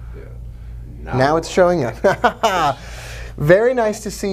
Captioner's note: laughs